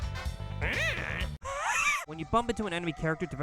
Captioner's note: wheezing laugh